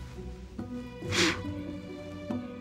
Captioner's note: blowing sound